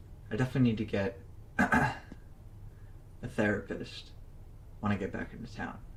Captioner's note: clears throat